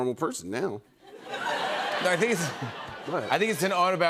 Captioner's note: laughter